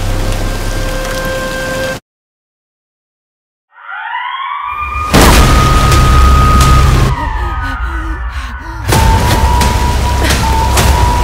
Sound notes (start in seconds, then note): 3.7 siren blaring; 5.1 heavy rainfall; 7.3 panicked breathing; 8.9 siren blaring